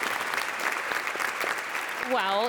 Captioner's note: audience applauds